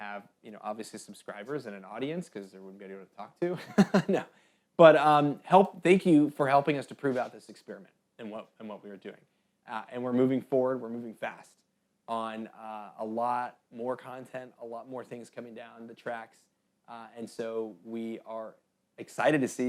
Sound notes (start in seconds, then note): 3.6 laughs